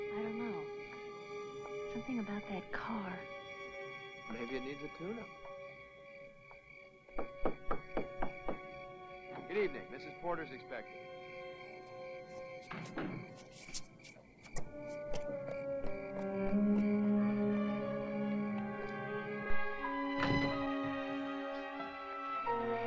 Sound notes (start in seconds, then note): 7.2 softly knocking on door; 11.6 crickets softly chirping; 11.6 ominous music; 20.0 ominous music